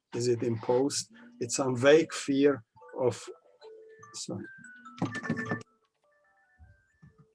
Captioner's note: phone ringing